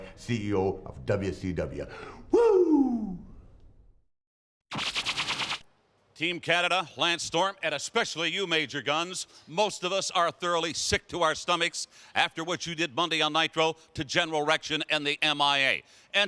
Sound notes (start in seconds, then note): 4.7 logo buzzes